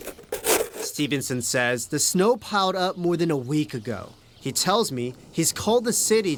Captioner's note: shoveling